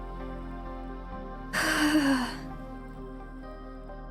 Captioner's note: sighs